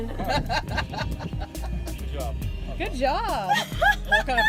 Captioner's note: laughing